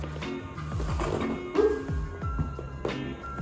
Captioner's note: squeak